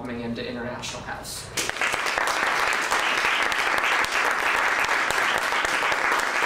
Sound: applause

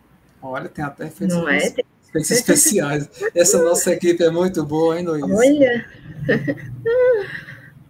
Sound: laughs

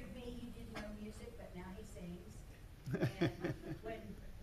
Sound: loud laughter

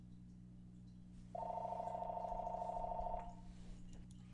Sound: phone ringing

